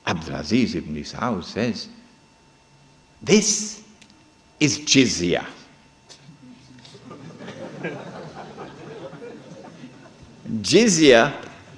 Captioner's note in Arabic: ضحك الحاضرون هههههه